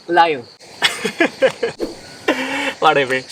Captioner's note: chuckles